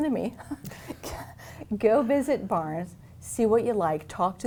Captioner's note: chuckles